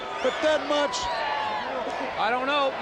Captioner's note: crowd cheering